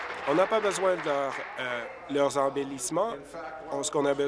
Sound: applause

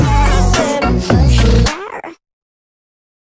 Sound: rawr

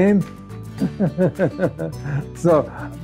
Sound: laughing

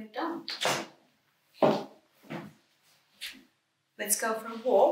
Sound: footsteps clattering

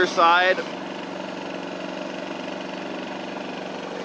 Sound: machine roars

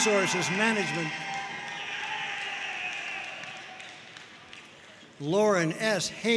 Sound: audience cheering and applauding

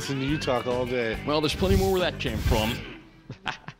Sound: laughs

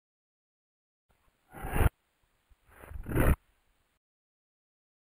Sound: sound of transition

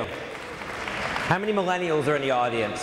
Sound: audience applauds

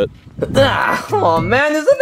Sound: Luigi grunting

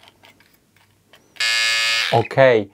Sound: razor buzzing

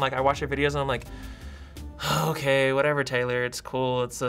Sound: sighing

